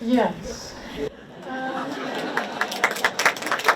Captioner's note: audience laughs; audience applauds